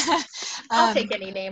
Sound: laughing

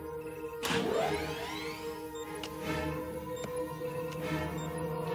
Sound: engine starting

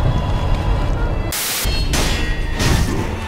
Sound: static

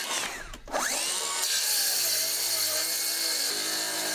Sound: saw whirring

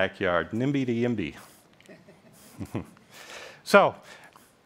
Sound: laughs

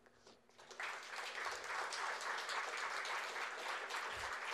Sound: audience applause

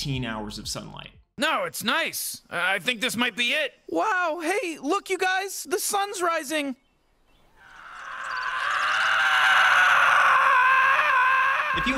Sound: screaming

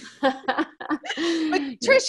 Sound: laughs

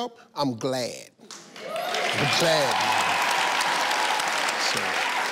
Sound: audience cheers

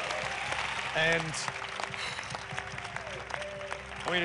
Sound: cheers and applause; sighs

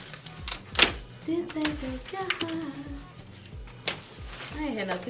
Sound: humming

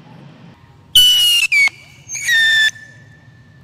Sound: high pitched whine ending in small pop

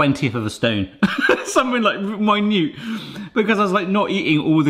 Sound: laughing

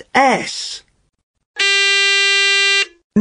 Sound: Nikkiís buzzer

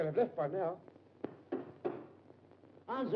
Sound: knocking on door

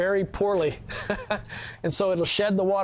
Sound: laughs

